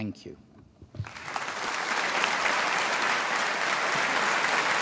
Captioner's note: audience applauding